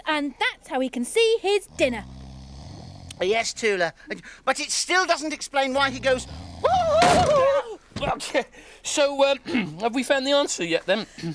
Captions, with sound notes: and that how he can see his dinner. - Yes Tula, but it still doesn't explain why he goes.. (Iver hoots) (Groove yells) - So, have we found the answer yet, then?